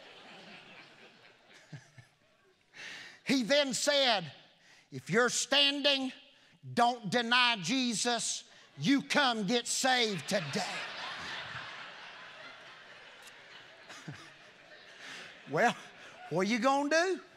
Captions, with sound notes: (congregation laughing) He then said if you're standing, don't deny Jesus, you come get saved today. (congregation laughing) Well, what you gonna do?